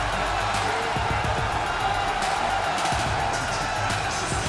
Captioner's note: cheers and applause